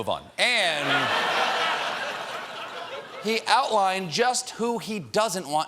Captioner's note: laughter